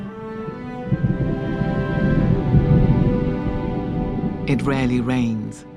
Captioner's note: thunder rumbles